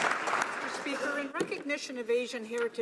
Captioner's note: some Applause